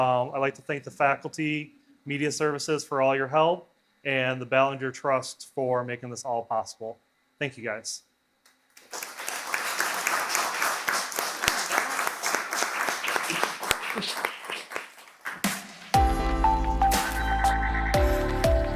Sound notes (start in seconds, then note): 8.8 audience applauds; 15.4 upbeat music